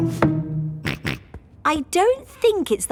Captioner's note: snorts